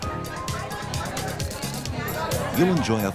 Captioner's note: upbeat music; people talking